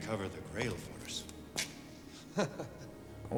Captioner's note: laughs